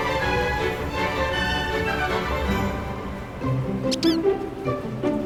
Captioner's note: sliding